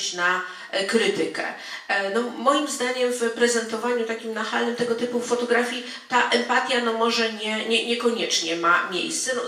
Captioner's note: speaking in foreign language